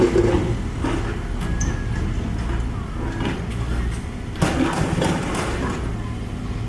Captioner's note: engine